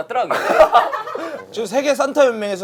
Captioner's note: laughing